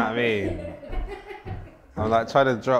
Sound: laughter off screen

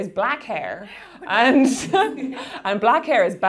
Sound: laughing

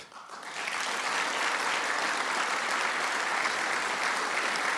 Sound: audience applauding

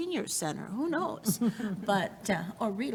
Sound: chuckling

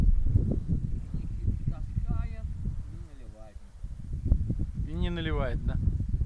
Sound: man speaking foreign language

